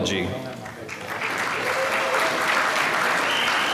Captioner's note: applause